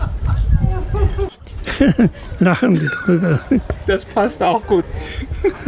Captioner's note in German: lachen